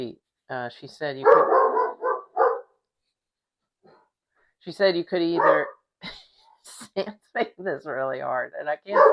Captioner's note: dog barking; barking